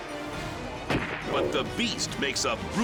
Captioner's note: gunshot firing